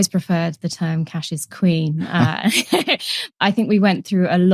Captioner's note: laughter